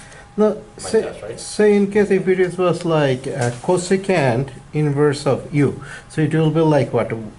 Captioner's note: voiceover